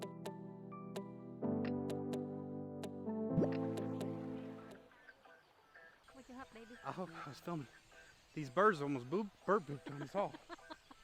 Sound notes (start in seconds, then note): 3.3 bubble popping